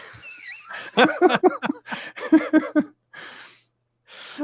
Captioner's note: both laughing